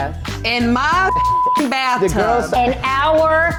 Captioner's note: beep